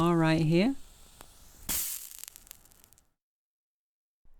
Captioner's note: match strike sound; match sizzles as it hits the plate and goes out